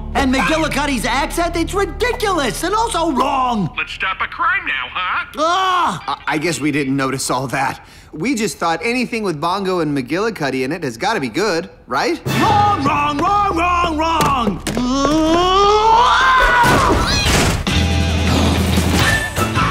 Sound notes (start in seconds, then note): 14.8 Hank screaming in frustration; 17.6 theme music playing